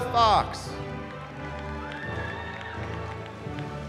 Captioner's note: cheering